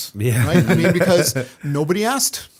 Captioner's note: chuckle